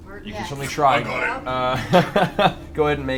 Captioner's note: snap